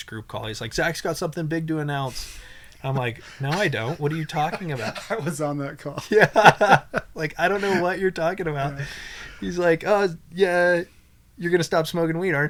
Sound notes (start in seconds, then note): 2.8 laughs; 6.7 laughs